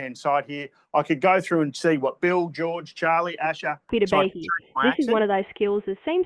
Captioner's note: auto-voice